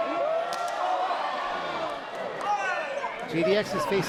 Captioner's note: crowd groaning